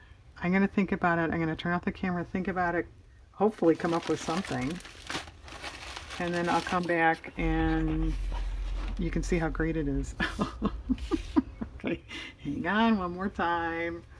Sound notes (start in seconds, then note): 10.2 laughs